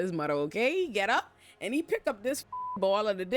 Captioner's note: beep